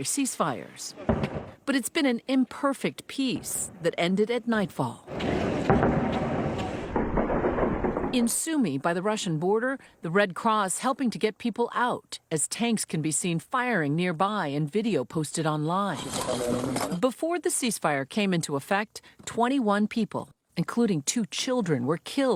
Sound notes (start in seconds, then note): 8.7 explosions